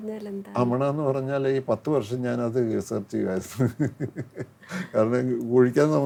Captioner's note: bursts into laughter